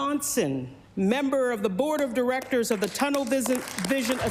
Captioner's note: applause